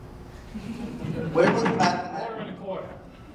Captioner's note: audience laughing